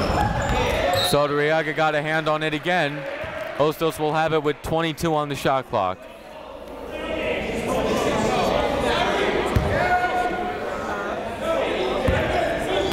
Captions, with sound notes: Saldarriaga got a hand on it again. Hostos will have it with 22 on the shot clock. (chatter)